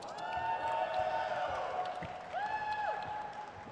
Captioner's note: crowd cheers